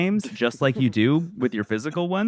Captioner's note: laughs